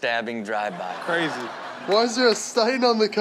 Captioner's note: audience laughs